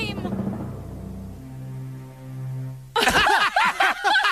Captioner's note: laughter